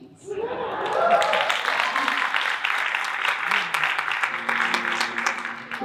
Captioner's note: audience cheering and applauding